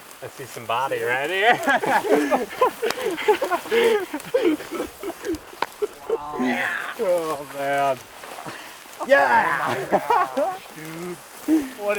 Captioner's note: laughing